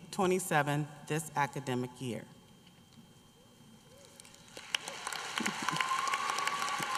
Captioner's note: applause